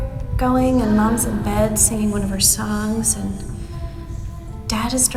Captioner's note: VOICE ECHOES "Starlight"